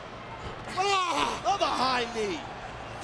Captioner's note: Brock groans